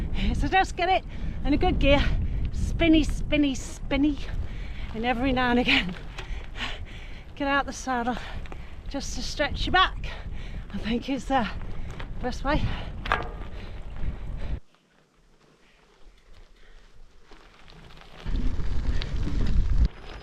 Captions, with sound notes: So just get it in a good gear. Spinny, spinny, spinny and every now and again. Get out the saddle just to stretch your back. I think it's the best way. [Wheels on gravel]